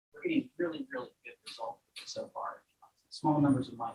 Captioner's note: none